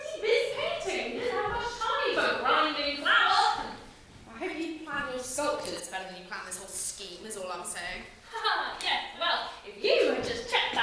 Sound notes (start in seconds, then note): none